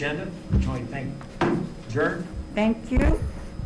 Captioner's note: gavel bangs